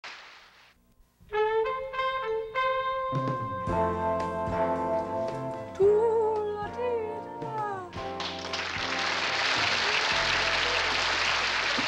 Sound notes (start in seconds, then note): 1.2 upbeat music; 5.8 humming; 8.0 applause